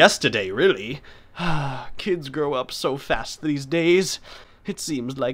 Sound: sighing

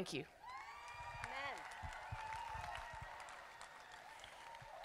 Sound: crowd applauding

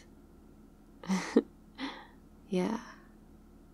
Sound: laughs

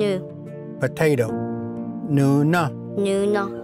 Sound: repeats in Cherokee

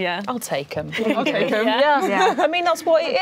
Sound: laughing

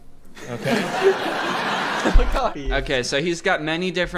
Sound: crowd laughs

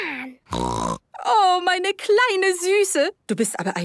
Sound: snorting; speaking German

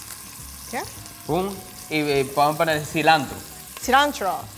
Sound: speaking in foreign language

